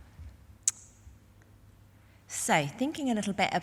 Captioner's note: smacks lips